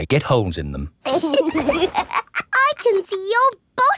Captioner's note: laughs